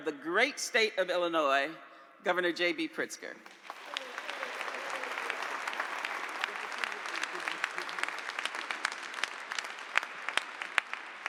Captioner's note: applause